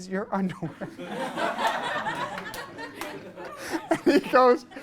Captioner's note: class laughs